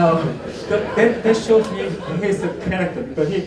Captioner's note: laughter